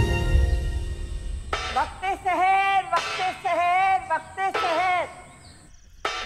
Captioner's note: Shaggo beating a plate